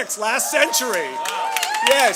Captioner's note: applause